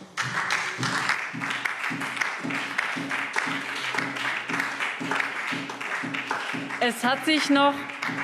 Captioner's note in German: Beifall SPD und DIE LINKE